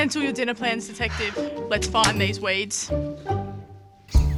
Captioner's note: sighs